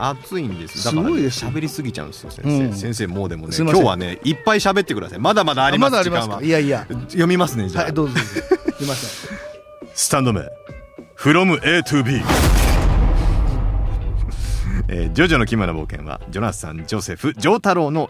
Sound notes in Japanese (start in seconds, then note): 8.0 笑い